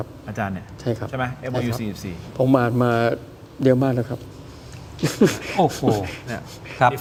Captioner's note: laughs